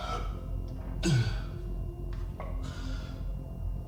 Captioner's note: gags